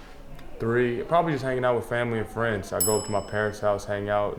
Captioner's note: bell sfx